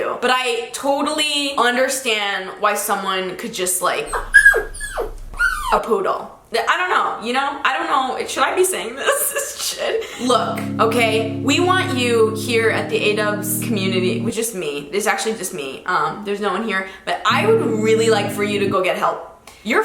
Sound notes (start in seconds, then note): 5.4 dog whining